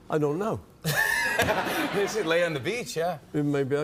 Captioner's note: laughter